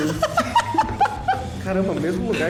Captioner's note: laughs